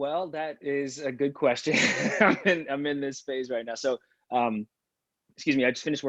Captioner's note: laughs